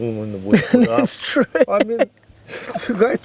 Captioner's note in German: Lacht